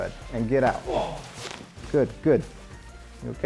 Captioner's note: grunts